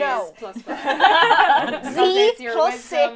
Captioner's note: laughter